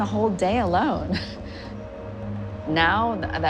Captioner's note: chuckling